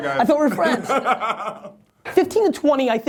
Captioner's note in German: Lacht